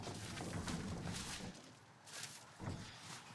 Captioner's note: cart rolling